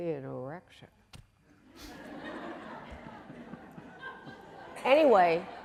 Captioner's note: audience laughing